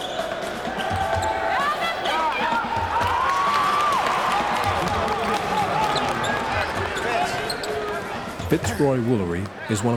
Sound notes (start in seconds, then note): 1.2 mixed yelling; 3.6 cheering